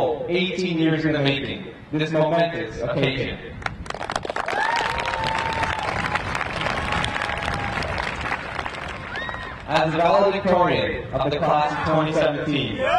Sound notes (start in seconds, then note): 3.6 audience clapping and cheering